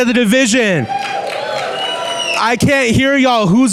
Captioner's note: clapping and whooping